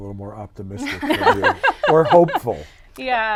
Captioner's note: women laugh